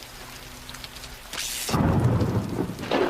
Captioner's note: thunder